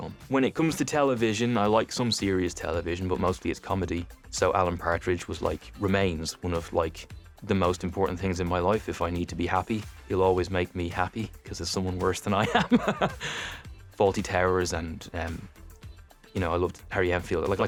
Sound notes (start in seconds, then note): 12.4 laughs